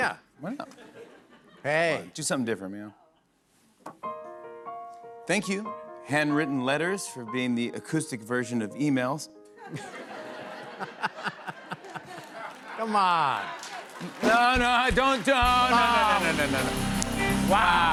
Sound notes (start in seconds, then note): 9.7 scattered laughter; 11.7 cheers and applause